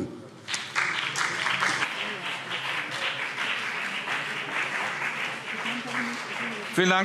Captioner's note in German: Beifall BÜNDNIS 90/DIE GRÜNEN und CDU